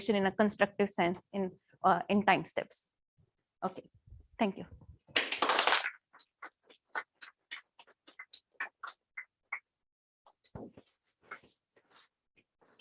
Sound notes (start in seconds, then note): 5.1 applause